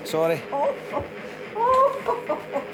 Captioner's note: laughing